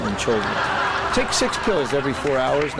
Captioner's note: audience laughs